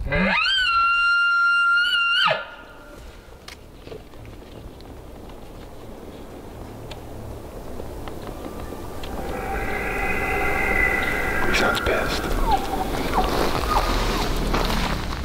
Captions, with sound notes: (Caller bugling) (Elk growling) Oh he sounds pissed.